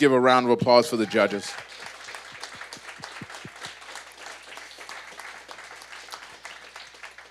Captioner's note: audience applause